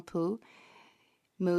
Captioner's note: speaking French